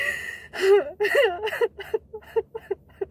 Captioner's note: sobbing